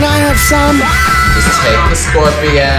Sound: screams

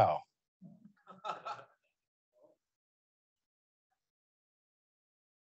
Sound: student laughing

